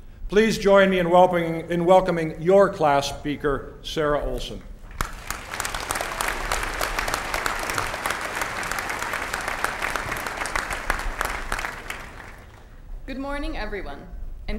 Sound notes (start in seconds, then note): 4.8 applause